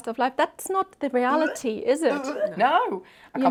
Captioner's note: imitates retching